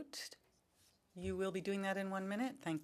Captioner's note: speaking French